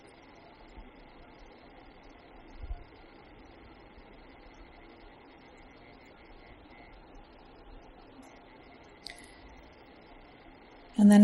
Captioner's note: silence